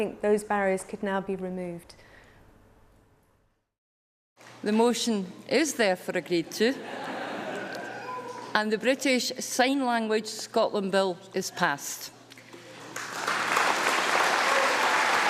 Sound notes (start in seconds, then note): 6.7 laughter; 12.7 applause